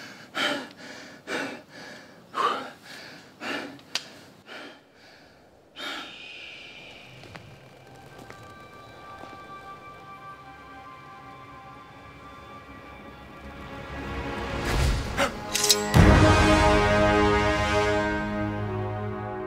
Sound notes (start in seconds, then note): 6.3 hawk's screech